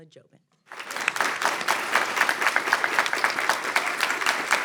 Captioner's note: audience clapping